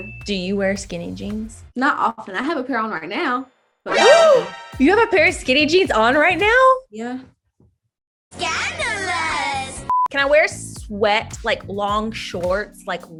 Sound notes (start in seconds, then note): 4.0 gasps